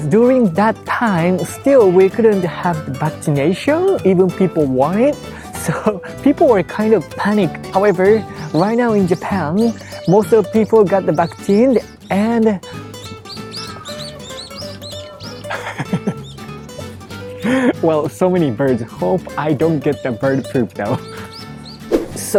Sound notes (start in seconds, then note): 12.9 birds chirping; 15.7 chuckles